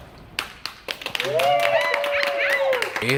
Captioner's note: people applauding and cheering